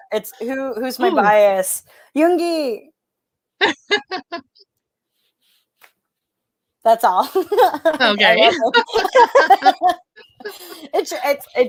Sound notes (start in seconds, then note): 3.6 laughs; 7.3 laughs